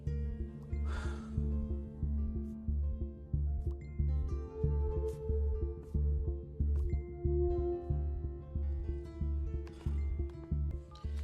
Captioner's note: sighs